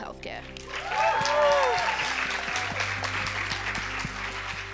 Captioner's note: cheers and applause